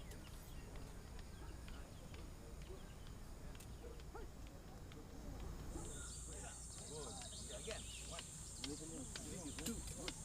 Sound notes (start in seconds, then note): 5.7 birds chirping